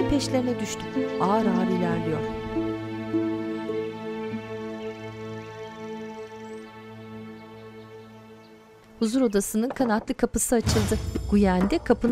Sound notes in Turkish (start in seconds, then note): 0.8 Müzik devam ediyor; 9.1 Kuş cıvıltısı sesi